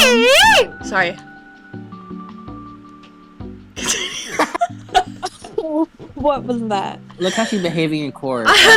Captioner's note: laughing